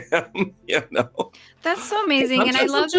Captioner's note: music ends and laughs